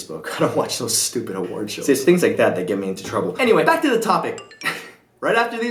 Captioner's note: sound of phone receiving message